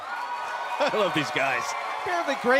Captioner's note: cheers & applause